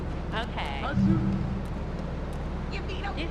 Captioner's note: sirens wailing